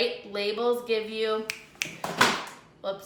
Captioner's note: fingers snapping; thud